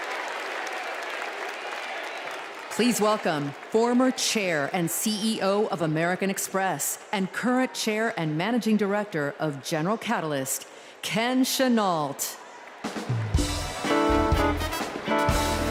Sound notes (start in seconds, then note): 0.0 cheers and applause